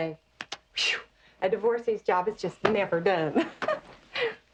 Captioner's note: laughs